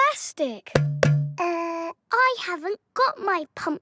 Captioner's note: hollow clunking